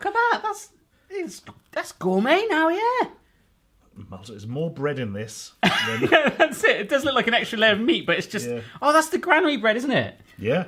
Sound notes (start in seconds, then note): 5.6 laughing